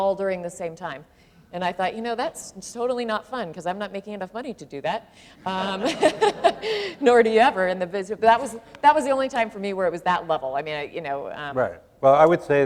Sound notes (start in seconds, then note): 5.4 laughter